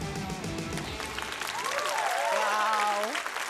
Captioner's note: applause, cheering